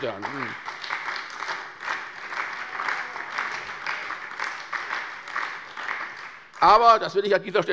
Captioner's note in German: Beifall bei der SPD